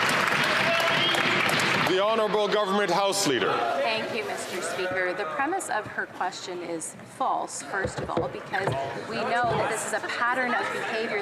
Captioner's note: some Applause